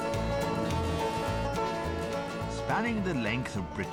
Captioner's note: horn blaring